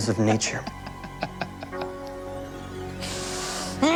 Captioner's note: laughing